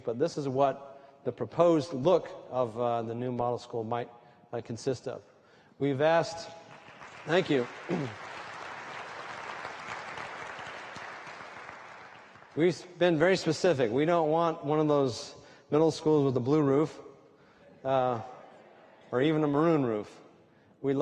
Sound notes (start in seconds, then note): 6.5 applause